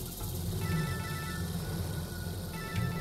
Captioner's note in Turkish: telefon çaliyor